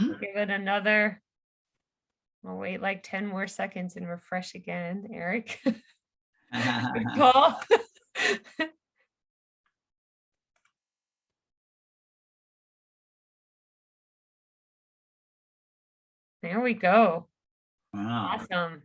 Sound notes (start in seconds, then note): 6.5 chuckles